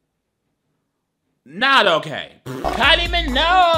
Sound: laughing

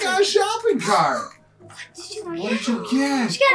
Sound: gasping

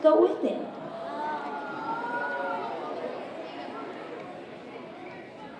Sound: audience exclaiming

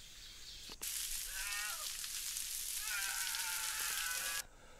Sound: terror screams

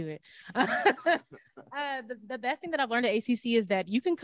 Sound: laughs

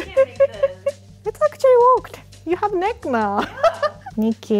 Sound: laughing

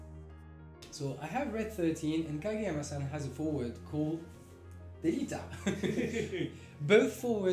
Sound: laughs

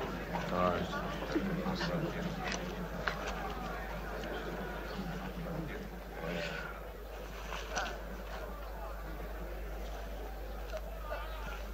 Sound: crowd noise

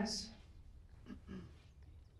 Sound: clears throat

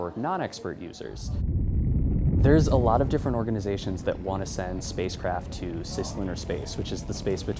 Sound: spaceship launch

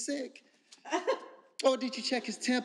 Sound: laughing

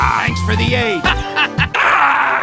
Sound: short laugh, distorted gasp

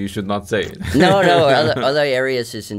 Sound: laughs

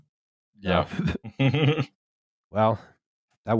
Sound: laughs

